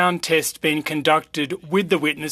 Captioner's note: speaking french